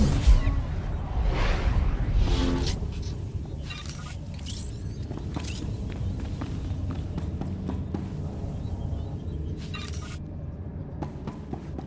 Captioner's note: explosion